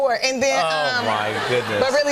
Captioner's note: laughter